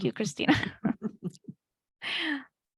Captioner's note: laughs